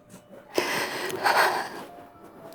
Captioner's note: crying